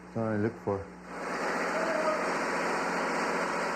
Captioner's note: engine running